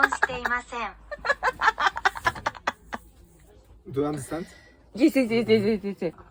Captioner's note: laughs